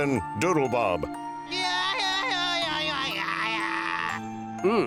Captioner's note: babbling